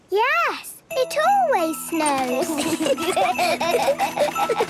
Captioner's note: laughter